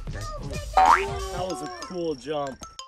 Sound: jumping sound

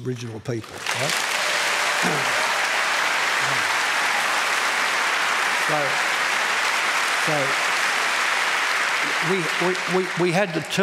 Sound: applause

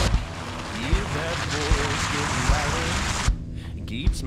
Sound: engine revving

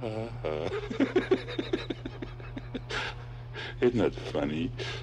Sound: Barney chortles

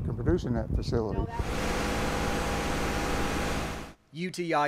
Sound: sound of crane

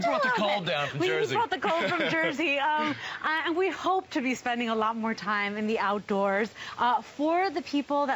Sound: laughter

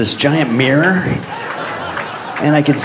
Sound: audience laughs

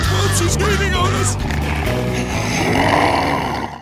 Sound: growling

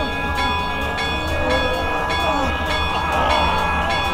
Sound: clanging

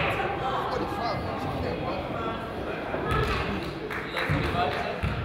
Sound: crowd chatters

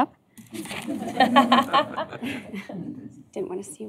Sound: laughter

